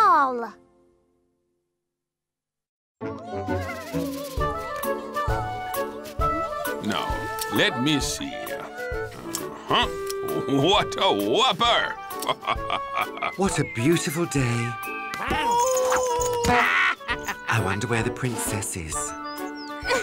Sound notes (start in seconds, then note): 3.5 chatter; 12.2 chuckles; 15.0 laughs wickedly